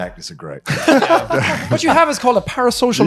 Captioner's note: laughing